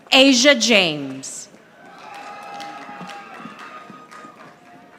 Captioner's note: audience applauding